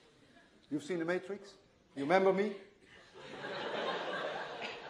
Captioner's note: laughter